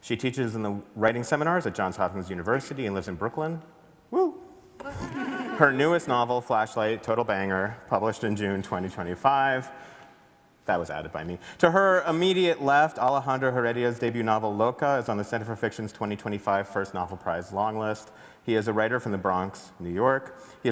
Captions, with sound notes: She teaches in the writing seminars at Johns Hopkins University and lives in Brooklyn." - Woo. (everybody laughs) - Her newest novel, "Flashlight," total banger, published in June 2025, that was added by me. "To her immediate left, Alejandro Heredia's debut novel "Loca," is on The Center for Fiction's 2025 First Novel Prize Long List. He is a writer from the Bronx, New York.